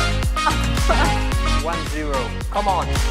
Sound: laughs

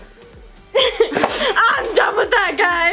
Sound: both laugh

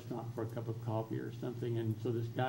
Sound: none

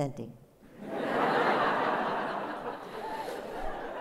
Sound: laughter

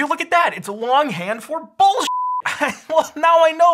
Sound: beep

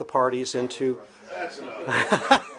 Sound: laughter

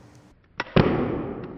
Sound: sharp snapping pop in slow-motion

